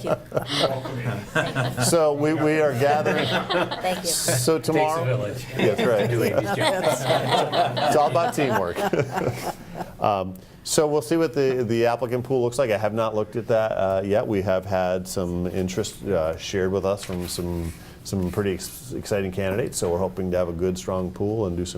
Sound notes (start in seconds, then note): 7.0 group laughing